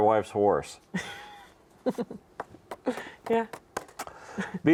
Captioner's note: chuckles